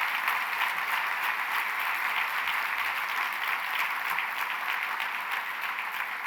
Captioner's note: applause